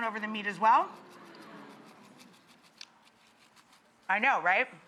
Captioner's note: audience oohing